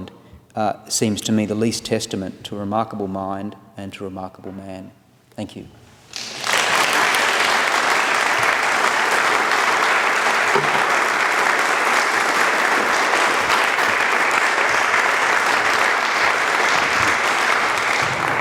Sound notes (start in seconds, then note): 10.0 applause